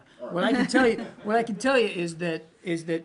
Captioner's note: laughter